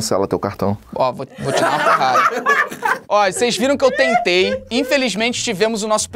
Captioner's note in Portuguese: risadas